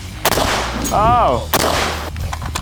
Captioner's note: gun bangs